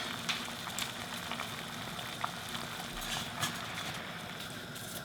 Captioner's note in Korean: 부글부글 물끓는 소리